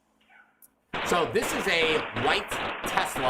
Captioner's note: gunshots booming